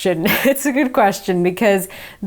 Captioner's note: chuckling